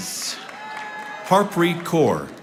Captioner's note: audience applauding